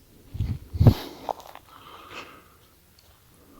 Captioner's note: footsteps